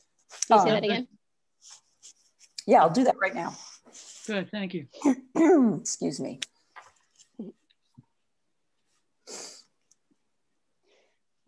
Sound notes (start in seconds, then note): 5.3 clears throat